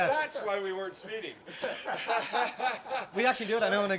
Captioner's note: laughing